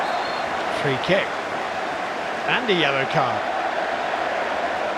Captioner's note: whistle